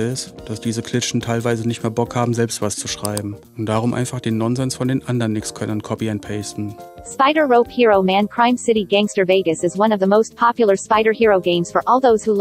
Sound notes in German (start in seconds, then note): 7.0 Eine weibliche Computerstimme liest vor